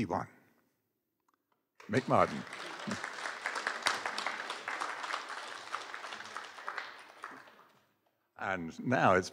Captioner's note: applause